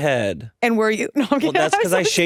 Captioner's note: laughs